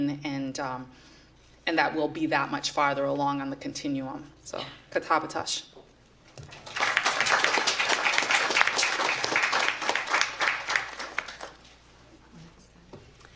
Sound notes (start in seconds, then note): 4.7 non-english speech; 6.5 applause